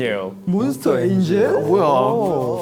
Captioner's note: murmuring